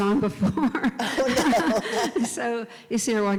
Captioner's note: laugh